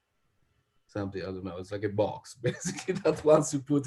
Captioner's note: laughs